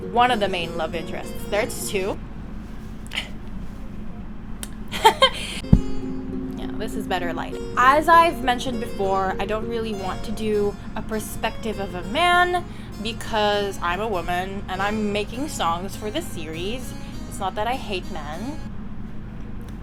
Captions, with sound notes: like, one of the main love interests, there's two [gasp] [lip smack] [chuckle] yeah, this is better lighting as I've mentioned before, I don't really want to do a perspective of a man because I'm a woman and I'm making songs for this series it's not that I hate men